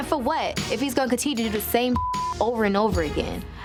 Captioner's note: beep